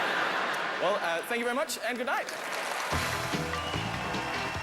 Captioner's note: laughter; upbeat, applause